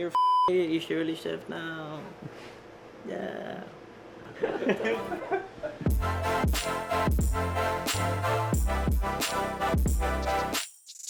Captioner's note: beep; beep